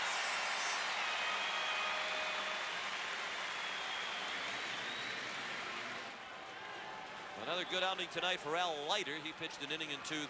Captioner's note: applause